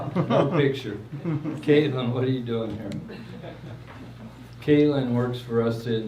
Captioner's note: laughs